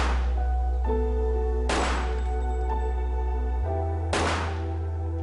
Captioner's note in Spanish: Disparos